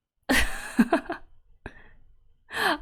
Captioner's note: laughs